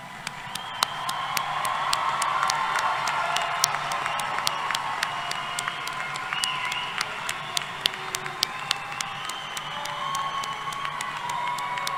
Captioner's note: applause and Cheering